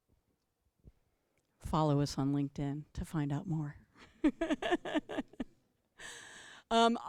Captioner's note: laughter